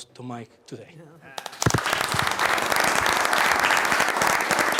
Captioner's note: applause